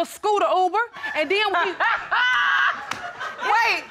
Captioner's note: laughs